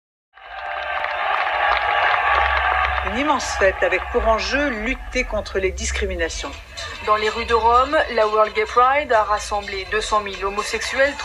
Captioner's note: crowd cheering; speaking Italian